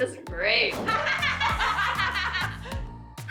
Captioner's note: laughter